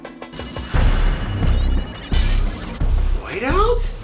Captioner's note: electronic beeping